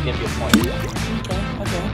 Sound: water splashing

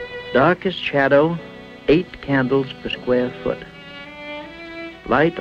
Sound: voiceover

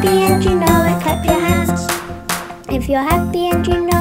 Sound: hands clapping

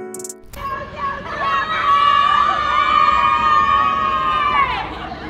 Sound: crowd cheering

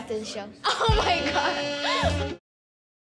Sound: laughing

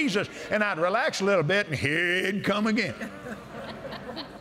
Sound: laughter

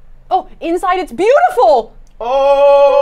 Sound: gasping

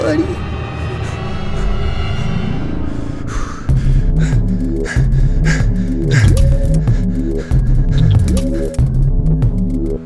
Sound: heavy breathing

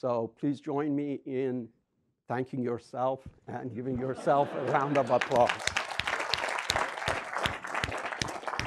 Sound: clapping

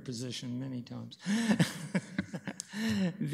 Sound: laughs

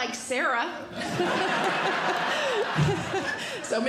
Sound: audience Laughing

